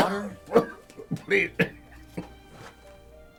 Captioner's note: coughs